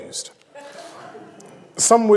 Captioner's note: audience laughs